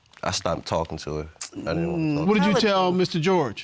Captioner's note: clicks tongue